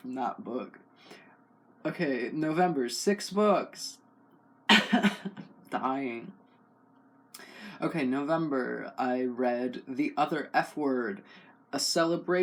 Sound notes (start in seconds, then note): 4.7 cough